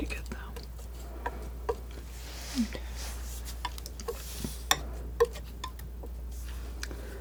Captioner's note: tapping